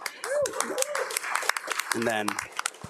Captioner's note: crowd cheering and applauding